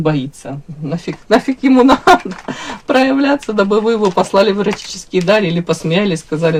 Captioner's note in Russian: смех